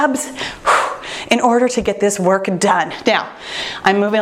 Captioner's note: exhales